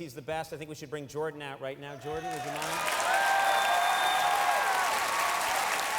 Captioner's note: audience laughing and cheering